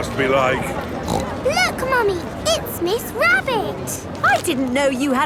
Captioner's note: snorts